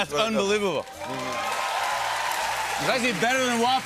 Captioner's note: cheers and applause